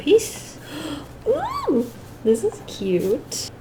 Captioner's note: gasp then squeals in delight